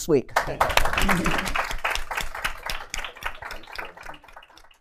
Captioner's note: applause